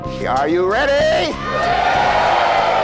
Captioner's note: applause